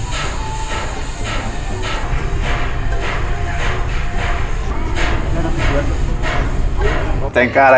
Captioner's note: clanking noises